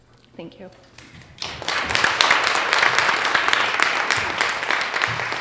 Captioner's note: audience applauds